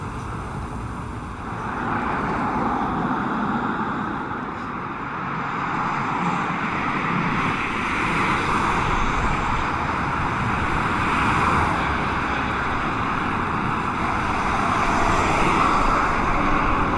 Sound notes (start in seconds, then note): 3.1 car drives; 5.4 highway traffic speeds